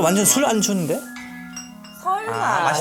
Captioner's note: clink, clink